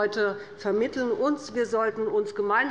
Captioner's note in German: none